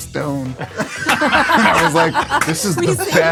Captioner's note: all laugh